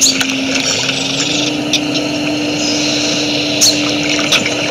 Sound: water sloshes

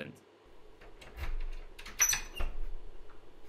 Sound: door creaks open; key unlocks door

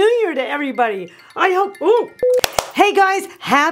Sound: alarm tinkling; hands clapping

